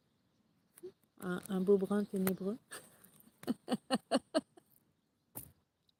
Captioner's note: laughs